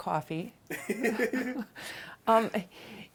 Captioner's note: laughing